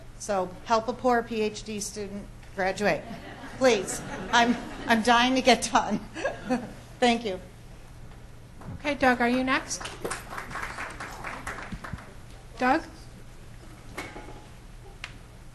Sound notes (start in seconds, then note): 3.0 laughs; 9.7 crowd applauds